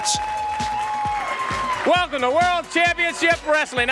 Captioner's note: crowd cheering